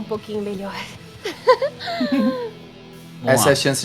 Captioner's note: laughs